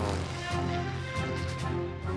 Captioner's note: engine buzzing